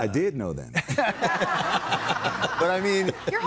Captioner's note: crowd laughing